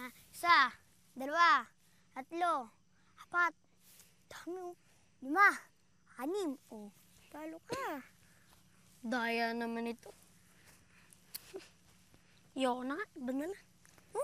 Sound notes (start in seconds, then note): 7.6 coughs; 10.6 boy 1 clicks tongue; 11.4 chuckles